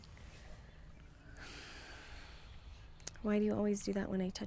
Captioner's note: Bryan sighs